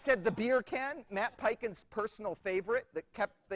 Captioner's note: laughter